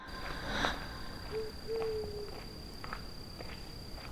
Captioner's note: whimsical music; footsteps plodding